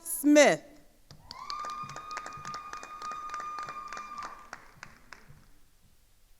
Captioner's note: attendees cheering and applauding